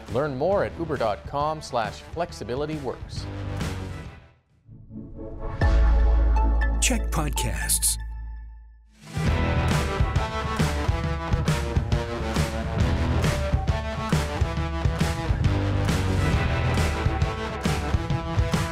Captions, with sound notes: Learn more at uber.com/flexibilityworks. [announcer voice]: CHEK Podcasts